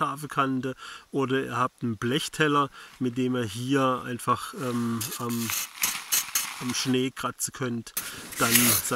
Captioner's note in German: scratching